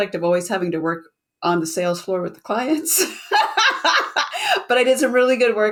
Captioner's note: laughs